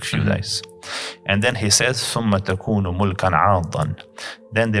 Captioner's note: Arabic